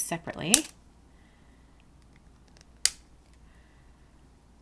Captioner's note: cutters snipping